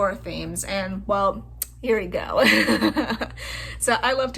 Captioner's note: laugh